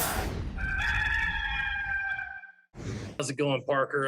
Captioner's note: rooster crows